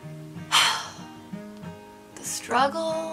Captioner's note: sighs